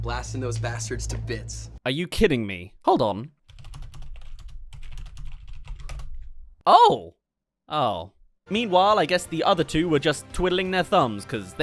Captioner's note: typing